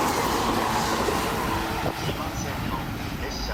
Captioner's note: express train passing